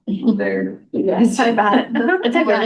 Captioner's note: laughter